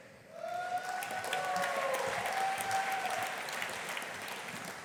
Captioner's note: audience applauding